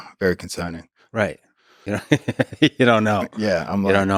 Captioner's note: Lex laughs